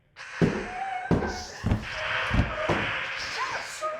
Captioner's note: Pepper moaning